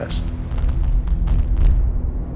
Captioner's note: explosions